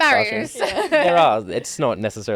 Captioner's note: laughing